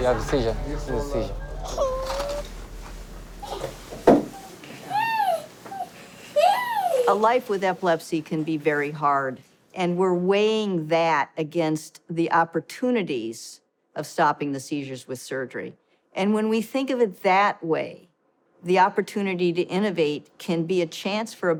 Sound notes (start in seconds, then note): 0.2 speaks foreign language; 1.7 cries